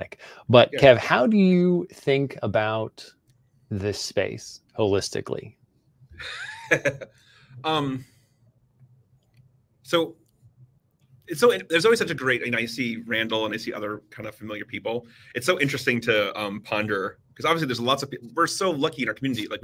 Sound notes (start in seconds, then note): 6.2 laughs